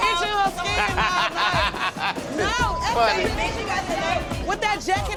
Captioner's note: bartenders yell at each other; laughs